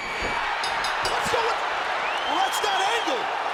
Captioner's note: audience cheering and clapping; bell rings